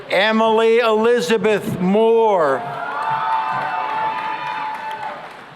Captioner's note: cheering and applause